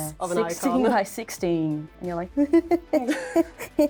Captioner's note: nervous laughter